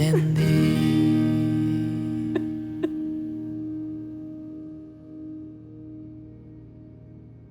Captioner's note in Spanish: Sollozos